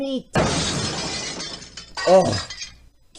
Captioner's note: glass Breaks